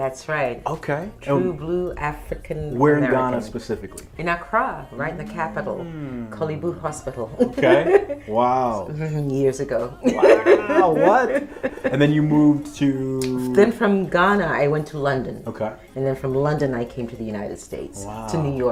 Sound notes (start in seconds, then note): 10.0 laughs